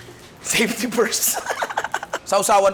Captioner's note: laughs